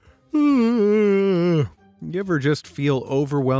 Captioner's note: yawns